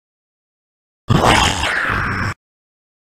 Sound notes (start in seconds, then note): 1.1 sound of zombie